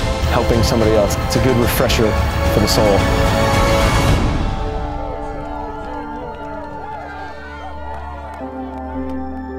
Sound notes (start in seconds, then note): 4.2 cheering